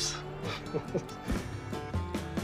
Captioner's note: laughs